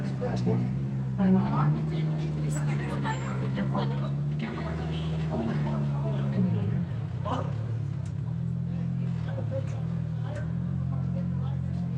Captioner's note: crowd chattering